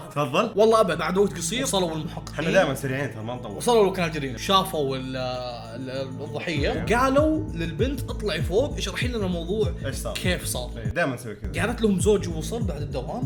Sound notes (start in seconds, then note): none